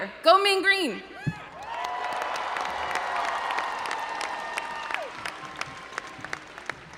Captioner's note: audience applauding and cheering